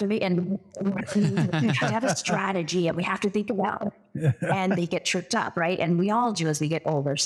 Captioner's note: laugh